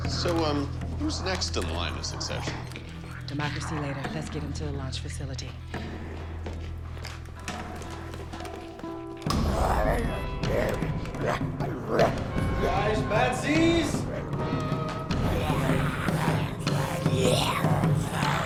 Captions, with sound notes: - So, uh, who's next in the line of succession? - Democracy later. Let's get him to the launch facility. [snarling] - Guys, mad Zs. [zombie growling]